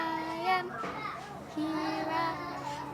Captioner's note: humming